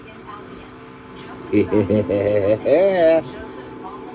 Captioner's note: laughs